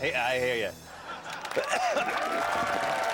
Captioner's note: coughing